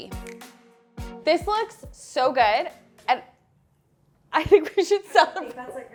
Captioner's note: laughs